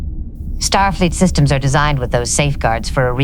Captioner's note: leaning forward slightly, her tone curious but firm